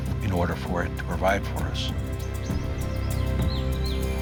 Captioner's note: birds chirping